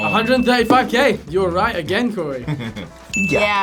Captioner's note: laughs